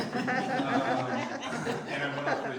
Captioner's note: audience laughing